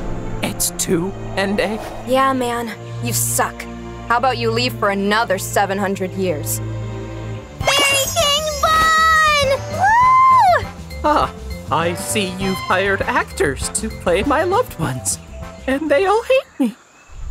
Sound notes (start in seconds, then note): 9.7 Ende cheering; 9.8 cheerful music